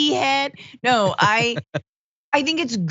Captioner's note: laugh